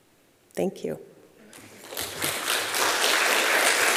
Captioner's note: applause